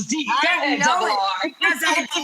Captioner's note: murmurs